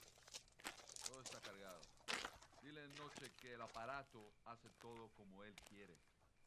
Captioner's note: Enrique Speaking Spanish